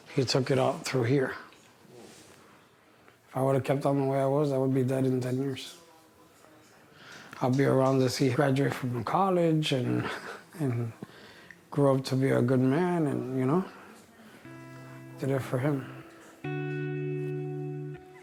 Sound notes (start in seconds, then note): 9.9 laughs; 14.2 placid music